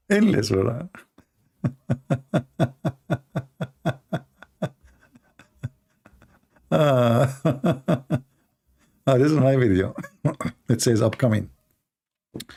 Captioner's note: Ketawa